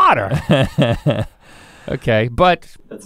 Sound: chuckles

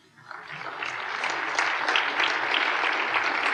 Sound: applause

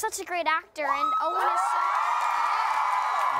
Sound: cheering, applause

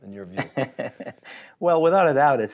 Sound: laughs loudly

